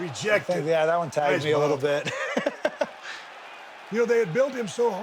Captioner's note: laughs